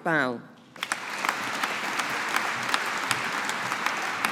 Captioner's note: audience applauding